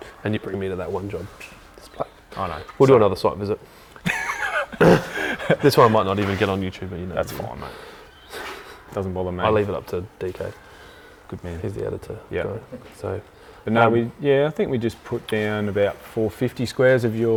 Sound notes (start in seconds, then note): 3.9 laughs